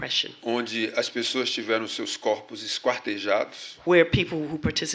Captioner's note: speaking portuguese